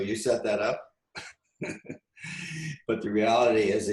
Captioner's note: laughs